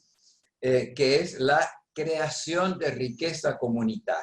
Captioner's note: speaking spanish